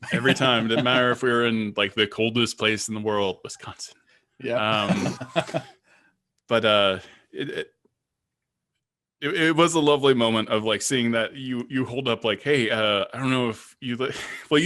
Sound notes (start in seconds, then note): 0.0 chuckling; 4.5 all laughing